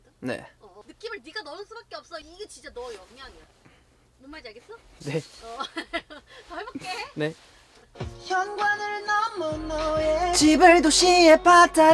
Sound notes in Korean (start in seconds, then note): 2.2 긁적